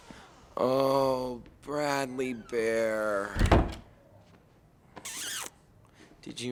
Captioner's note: kisses